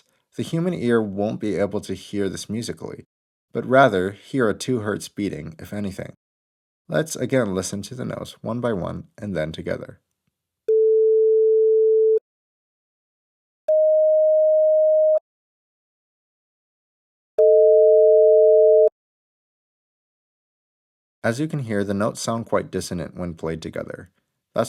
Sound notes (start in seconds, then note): 10.5 440 Hz sine wave plays; 13.7 622 Hz sine wave plays; 17.4 440 Hz and 622 Hz played together